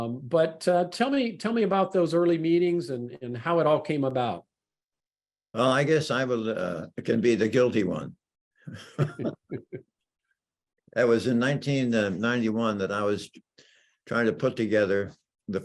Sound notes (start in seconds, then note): 8.7 laughs